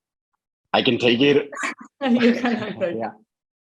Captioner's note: laughs